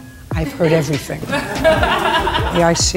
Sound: people laughing

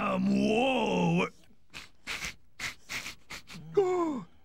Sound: sniffing

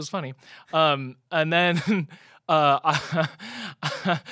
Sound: laughs

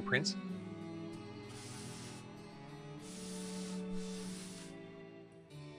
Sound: sweeping sounds

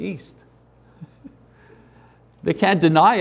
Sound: laughs

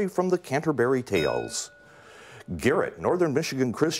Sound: bell rings

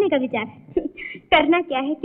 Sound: chuckles

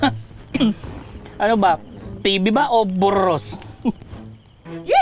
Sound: laughing

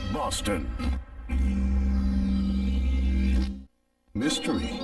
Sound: synth music playing; neon electricity zaps

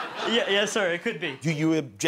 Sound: laughter

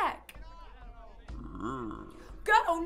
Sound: hunters speaking in the distance; bear grumbling

